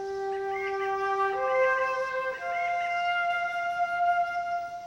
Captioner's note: bird squawks in distance